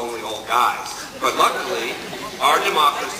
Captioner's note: laughs